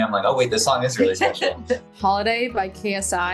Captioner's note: laughs